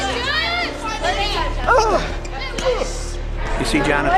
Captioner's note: grunting